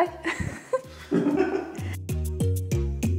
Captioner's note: laughing